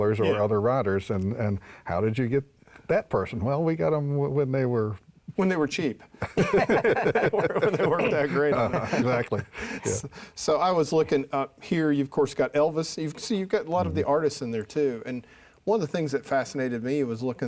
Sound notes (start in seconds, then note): 6.3 laughs